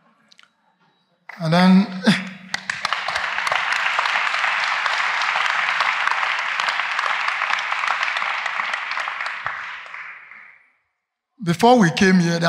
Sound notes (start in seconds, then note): 2.0 applause